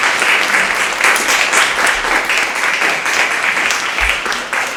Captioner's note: audience clapping